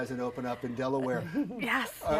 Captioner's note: laughs